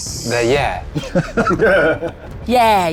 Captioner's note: group laughs